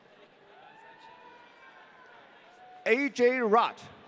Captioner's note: audience cheering